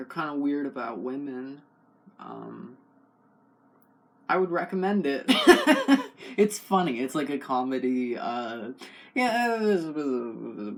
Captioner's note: murmuring